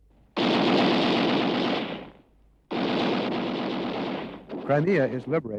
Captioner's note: gunfire